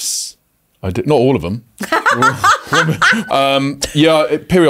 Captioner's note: laughs